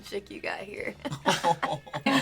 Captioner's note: laughing